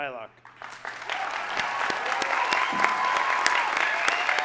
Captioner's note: audience applauding